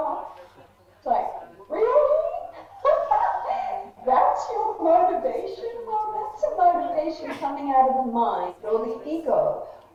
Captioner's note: laughs